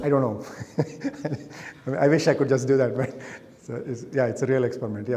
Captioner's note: chuckles